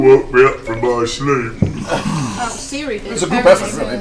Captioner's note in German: elektronisches Piepsen